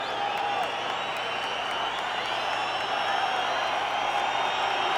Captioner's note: audience cheering